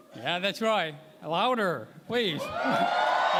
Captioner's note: cheering